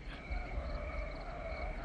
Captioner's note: tires squealing